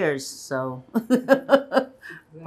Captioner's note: laughing